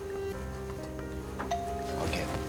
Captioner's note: doorbell rings